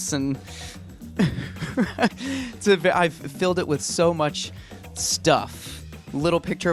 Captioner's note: laughs